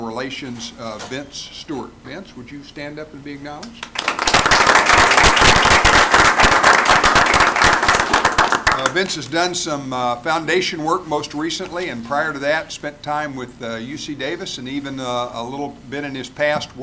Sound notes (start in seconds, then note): 6.6 applause